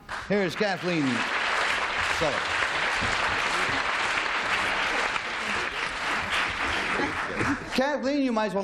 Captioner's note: applause